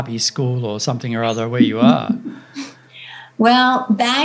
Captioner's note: laughing